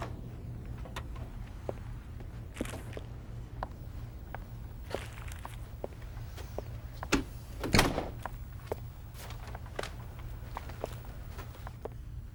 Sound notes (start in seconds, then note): 1.9 footsteps; 7.0 door closing